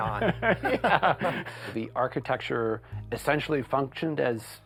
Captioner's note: laughter